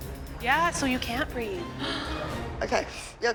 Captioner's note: gasps